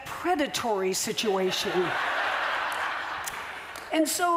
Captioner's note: laughter